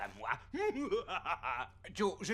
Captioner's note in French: rire machiavélique